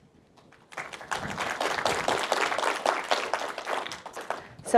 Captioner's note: audience applauds